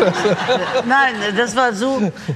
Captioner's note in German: Gelächter